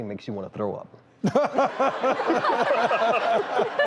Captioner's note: laughter